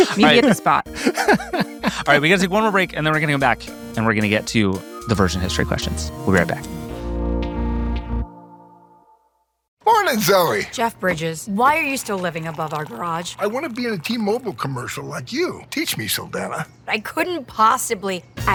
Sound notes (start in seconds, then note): 0.9 laughing; 7.2 gentle electronic music